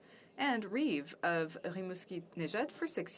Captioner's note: speaking French